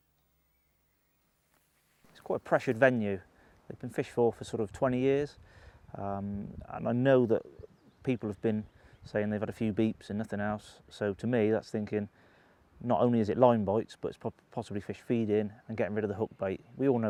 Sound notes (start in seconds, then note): 2.3 voiceover